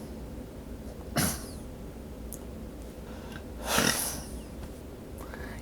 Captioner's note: coughs